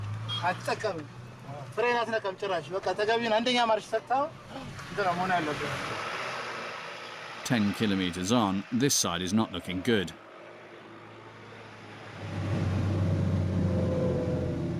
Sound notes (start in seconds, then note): 5.6 truck throttling; 10.0 truck throttling